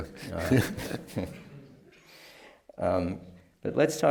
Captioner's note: laughs